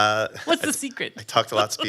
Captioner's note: laughs